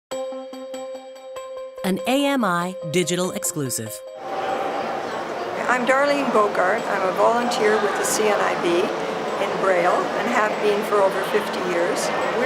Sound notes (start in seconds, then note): 4.3 conference NOISE